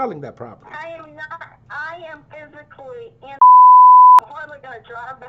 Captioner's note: beep